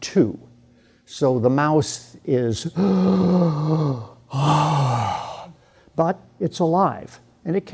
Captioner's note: gasps for air